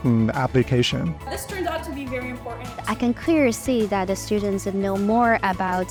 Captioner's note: voiceover